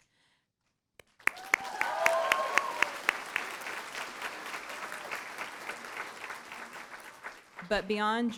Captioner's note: cheering & Applause